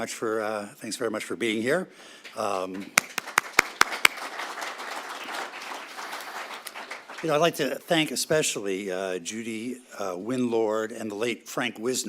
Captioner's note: applause